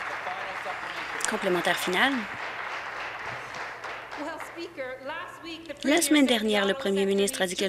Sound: applause

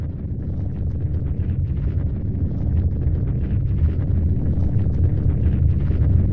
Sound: moves to loud rumbling

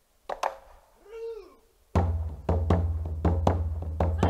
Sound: shouting

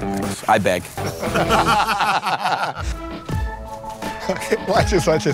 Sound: laughter

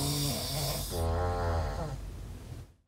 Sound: snoring

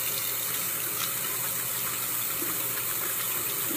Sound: faucet running

